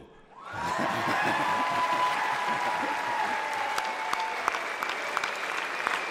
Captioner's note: audience cheers; audience applauds